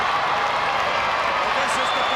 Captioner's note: crowd cheering